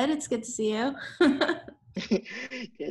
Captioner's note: chuckles